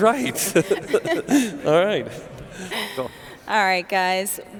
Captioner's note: laughing